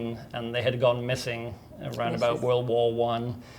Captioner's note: none